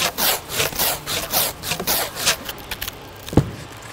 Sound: tape unwinding

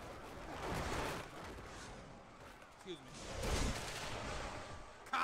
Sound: crashing and cheering

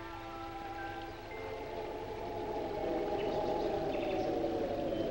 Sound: wind howling

